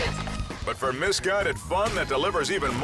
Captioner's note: upbeat music; fruit thuds